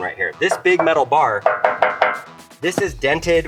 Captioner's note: bar thumping